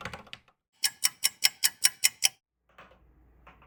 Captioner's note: clock ticking